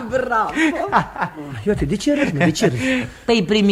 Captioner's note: laughs